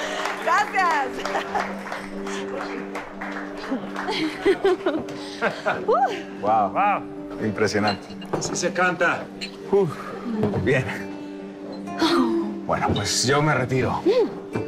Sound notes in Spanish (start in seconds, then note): 1.0 Risas